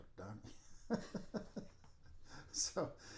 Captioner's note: laughing